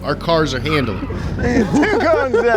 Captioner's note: laughter